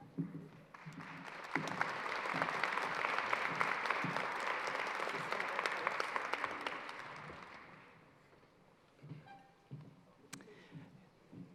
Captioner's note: applause